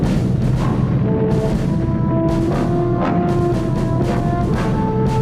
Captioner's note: explosions rumbling